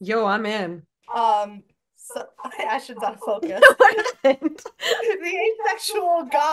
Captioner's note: laughs